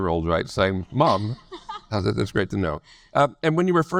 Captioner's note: laughs